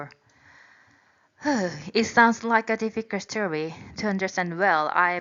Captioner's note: sigh